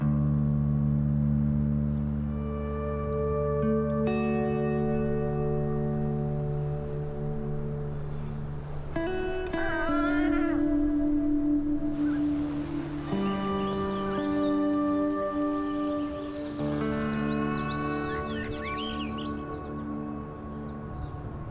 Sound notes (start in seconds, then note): 9.2 grouse calling; 11.9 birds singing